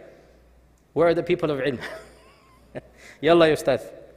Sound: chuckles

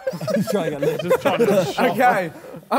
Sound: Sidemen laugh

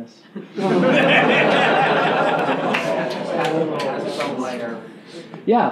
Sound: laughing

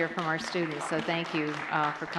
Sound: applause

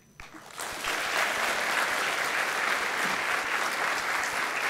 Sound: gathering clapping

